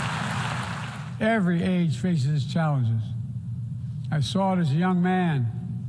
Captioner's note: applause